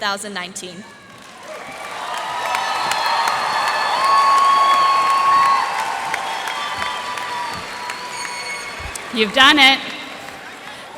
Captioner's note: cheers and applause